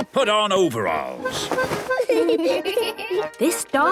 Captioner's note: giggling